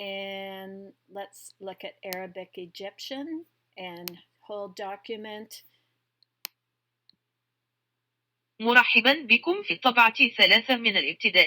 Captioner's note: computer speaking in Arabic